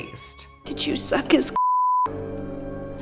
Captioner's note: beep